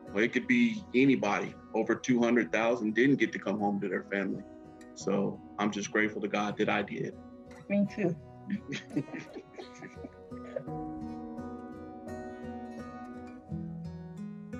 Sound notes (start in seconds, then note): 8.5 both laughing; 11.4 soft upbeat music